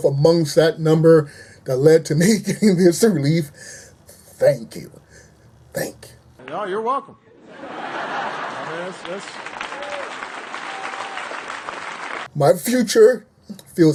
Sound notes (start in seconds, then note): 8.0 applause